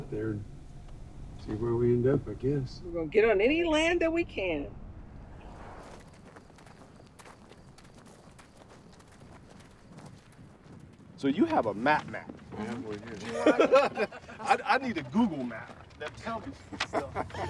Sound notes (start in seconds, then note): 13.2 laughs; 16.5 laughter